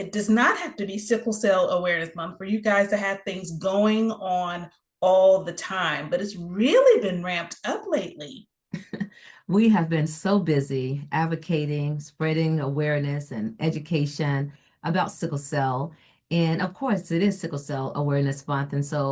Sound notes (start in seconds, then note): 8.7 chuckles